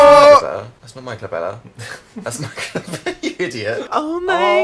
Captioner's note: laughs